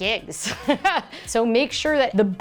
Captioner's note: laughs